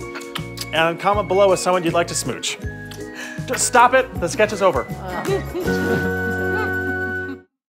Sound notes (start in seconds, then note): 0.0 kiss; 2.8 kissing